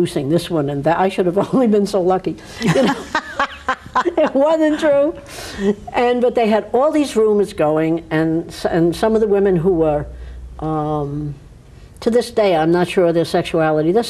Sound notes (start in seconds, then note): 2.6 both laugh